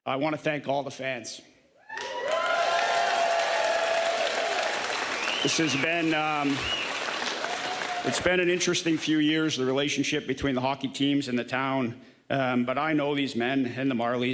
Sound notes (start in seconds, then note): 9.6 applause